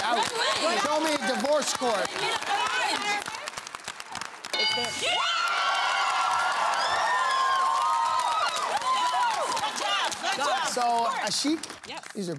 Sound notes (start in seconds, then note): 4.5 bell dings; 5.2 cheering/applause